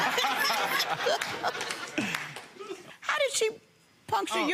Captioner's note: audience laughs